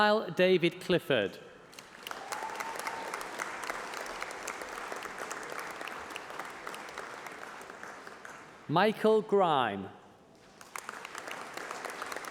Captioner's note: applause